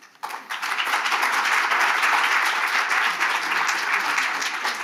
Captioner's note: audience clapping